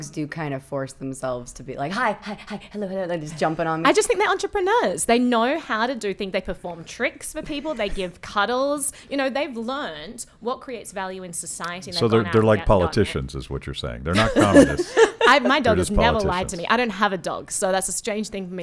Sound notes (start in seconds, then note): 14.1 laughing